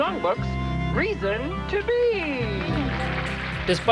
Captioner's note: applause